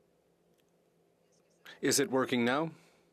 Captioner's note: speaking in French